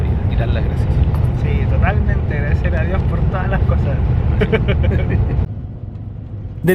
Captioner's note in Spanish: risas